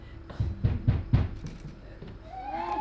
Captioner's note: a knock at the door